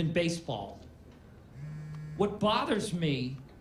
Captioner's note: phone vibrates